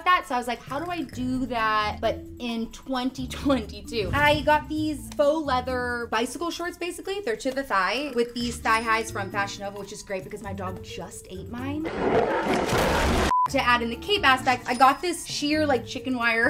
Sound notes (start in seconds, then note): 11.3 air whooshing; 11.3 beep